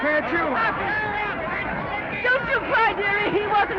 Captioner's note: reporters chattering